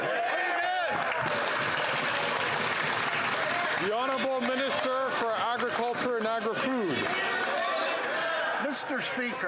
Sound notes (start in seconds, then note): 5.0 some Applause